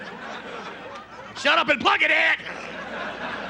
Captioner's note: normal voice; yelling